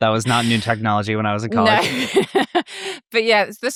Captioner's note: laughs